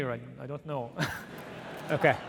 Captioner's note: audience laughing